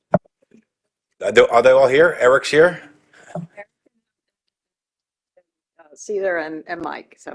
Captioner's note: distorted audio